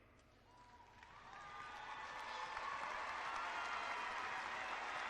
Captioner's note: clapping and cheering